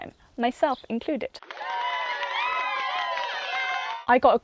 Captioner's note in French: Acclamations et applaudissements